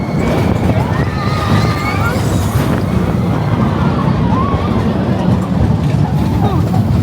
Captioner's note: coaster rumbles; screams and laughs; guests screaming; coaster rumbling